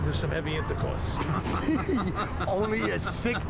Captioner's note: laughing